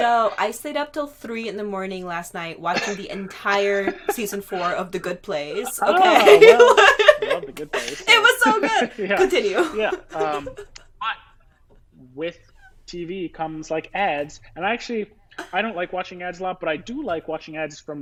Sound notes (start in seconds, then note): 5.4 laughing